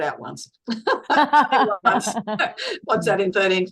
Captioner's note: everyone is laughing